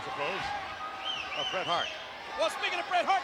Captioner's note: attendees cheering